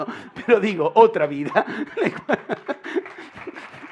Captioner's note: laughter